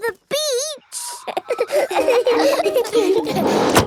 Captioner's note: all laughing